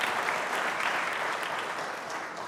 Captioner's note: applause